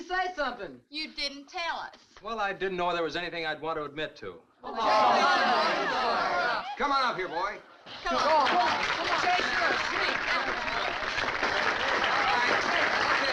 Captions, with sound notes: - Why didn't you say something? - You didn't tell us. - Well, I didn't know if there was anything I'd want to admit to. (crowd shouting) - Come on up here, boy. (crowd applauding) All right.